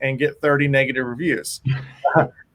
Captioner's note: chuckles